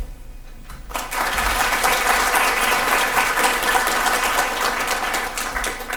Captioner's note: audience applause can be heard